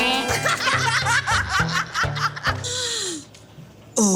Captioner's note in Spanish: Risas